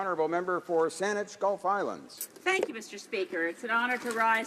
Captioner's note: speaking French